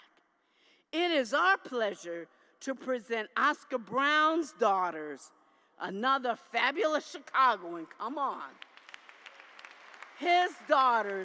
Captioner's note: applause